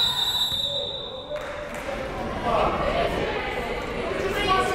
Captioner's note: whistle, buzzer